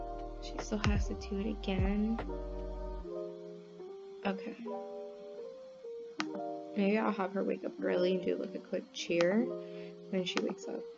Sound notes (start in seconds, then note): none